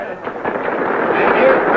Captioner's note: crowd applauding